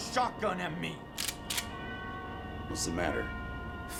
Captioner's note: gun clicking